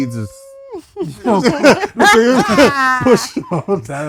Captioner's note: laughter; screaming